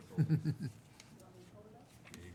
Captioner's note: chuckling